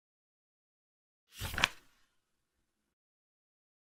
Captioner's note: page flip sound